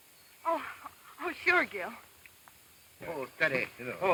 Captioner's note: laughs